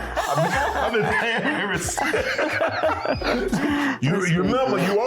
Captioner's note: laughing